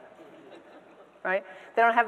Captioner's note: audience members laughing